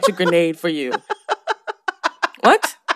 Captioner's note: laughter